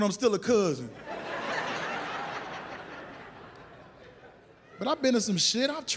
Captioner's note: audience laughs